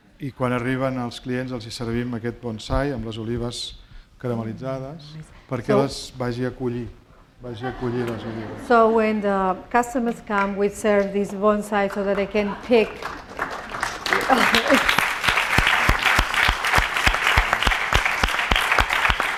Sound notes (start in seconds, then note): 0.7 speaking spanish; 12.6 applause